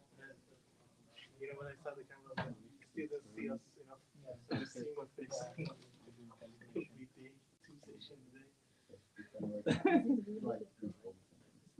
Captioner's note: laughing